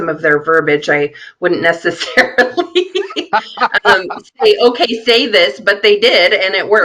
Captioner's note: laughing